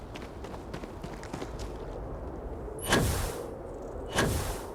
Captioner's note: gunshots